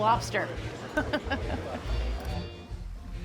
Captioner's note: laughs